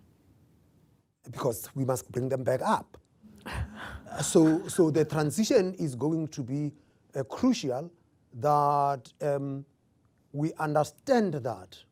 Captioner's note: laughter